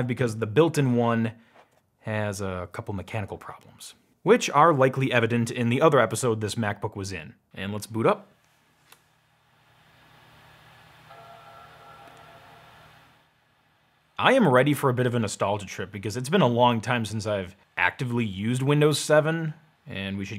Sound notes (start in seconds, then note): 11.0 computer chimes